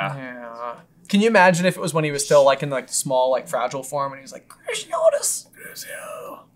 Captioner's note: weak whisper